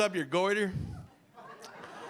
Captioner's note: audience laughing